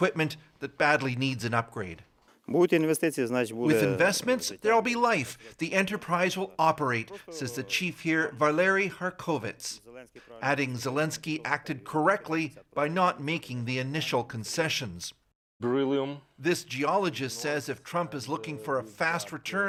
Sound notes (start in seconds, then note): 5.4 speaking alternate language; 18.8 speaking alternate language